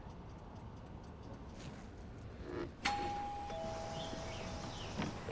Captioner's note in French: ding-dong!